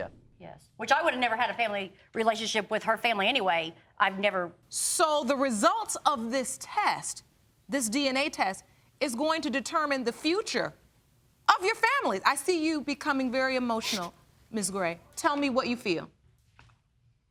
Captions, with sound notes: Which I would have never had a family relationship with her family, anyway, I've never... So, the results of this test, this DNA test, is going to determine the future of your family. I see you becoming very emotional. (SOBBING) Ms. Gray, tell me what you feel.